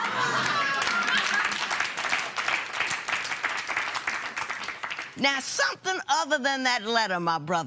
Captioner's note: laughter and applause